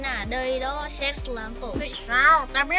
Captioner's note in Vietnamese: Tiếng Pháp